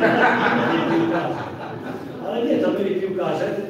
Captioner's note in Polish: śmiech z sali